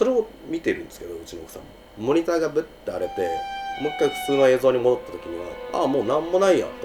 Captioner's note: bzzzt